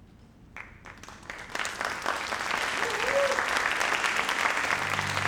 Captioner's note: audience applauds